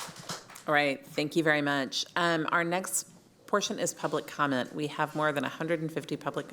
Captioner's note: applause